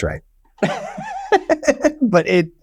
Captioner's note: laughing